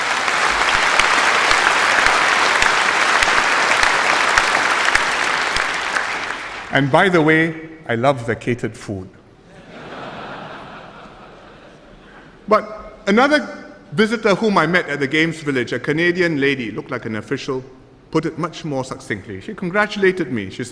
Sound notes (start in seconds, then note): 0.0 applause; 9.4 audience laughter